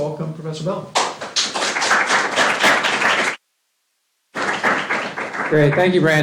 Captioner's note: applause